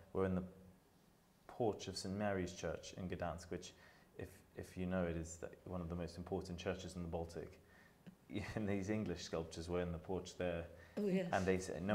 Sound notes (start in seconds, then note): 7.9 chuckles